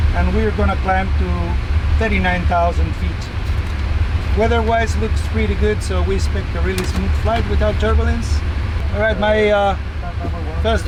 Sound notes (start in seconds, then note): 6.5 clipboard clattering